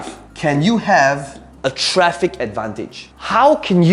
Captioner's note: tapping marker